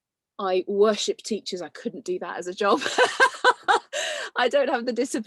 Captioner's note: laughs